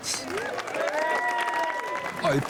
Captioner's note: cheering